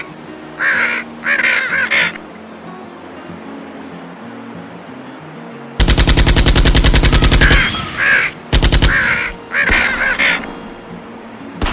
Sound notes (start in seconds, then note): 1.2 scream, crows cawing; 5.9 machine gun fire; 5.9 shots from a hunting rifle